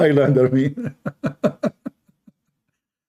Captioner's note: Ketawa